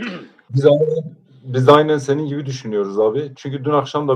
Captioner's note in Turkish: boğazını temizler